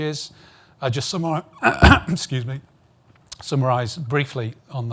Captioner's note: clears throat